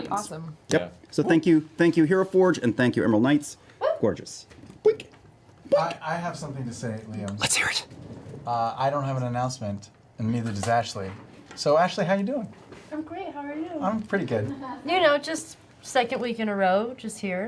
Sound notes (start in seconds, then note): 7.3 whispers